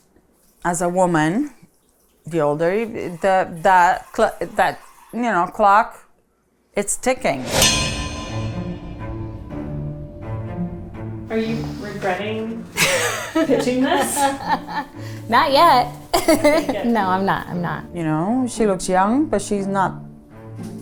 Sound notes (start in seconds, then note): 7.4 bold orchestral music; 14.4 laughing